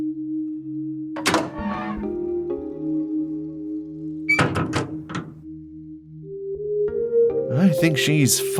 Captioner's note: door opens…and closes